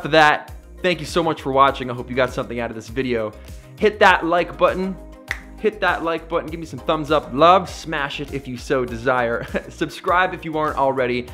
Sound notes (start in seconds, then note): 5.2 snaps